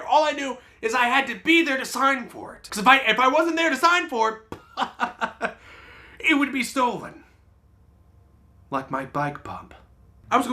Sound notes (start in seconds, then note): 4.6 laughs